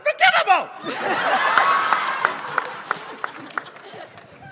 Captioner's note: laughing, cheering, applause